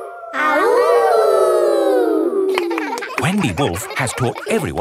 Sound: howling; kids howling

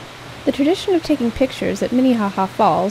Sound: sounds of Rushing water

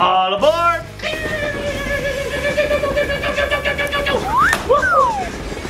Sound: vrooming noises

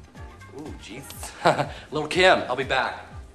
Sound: laughs

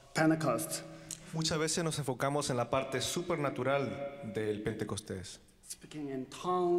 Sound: translating in foreign language

